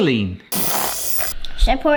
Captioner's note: whisk whirring